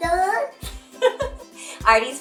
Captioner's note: laughing